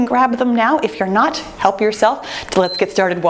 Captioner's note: timer beeps